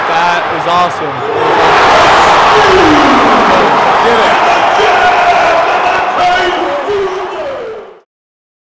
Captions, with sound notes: Like that, it's awesome. Let's get it. [crowd roaring]